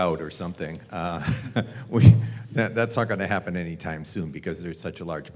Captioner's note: laugh